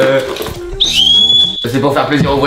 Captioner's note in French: sifflet